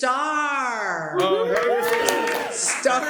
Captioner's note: cheers and applause